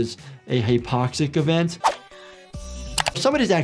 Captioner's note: energetic music; air whooshing